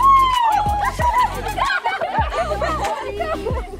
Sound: cheering

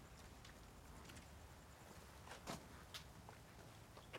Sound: footsteps

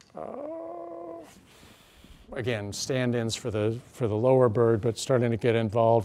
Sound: groans

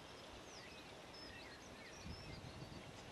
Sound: bird Song

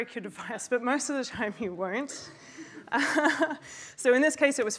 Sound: laughs

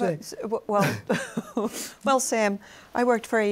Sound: laughs

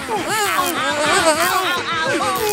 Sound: screaming

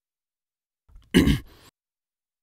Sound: clears throat

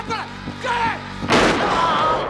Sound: gun fires

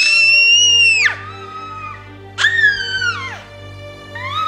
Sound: kids screeching; baby squeals

